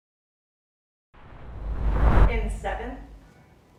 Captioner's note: air swooshing